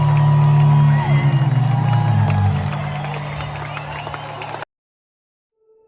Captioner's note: applause